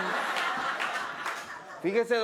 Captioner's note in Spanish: Risas del público